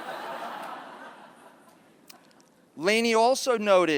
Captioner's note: laughter